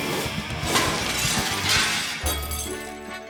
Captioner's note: intense music; logo shattering; circus music